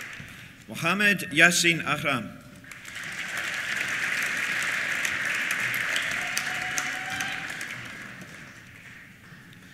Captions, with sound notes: Mohamed Yassine Ahram. (CHEERS) (APPLAUSE)